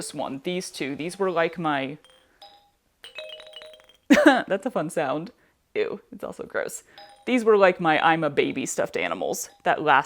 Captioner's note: soft bell sound